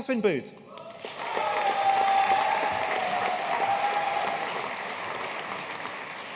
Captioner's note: audience cheering and applauding